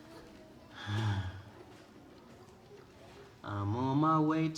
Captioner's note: sighs